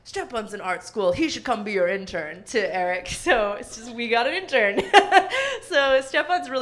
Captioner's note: laughs